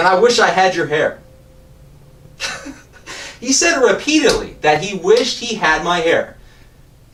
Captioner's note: laughter